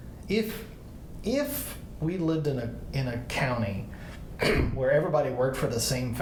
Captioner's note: clears throat